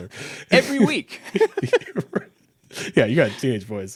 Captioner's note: both laughing; chuckles